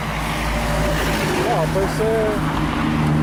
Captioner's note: loud traffic sound